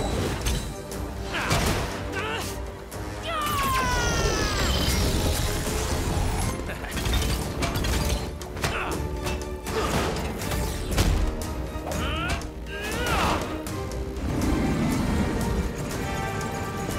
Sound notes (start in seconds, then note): 3.0 yells; 6.5 chuckles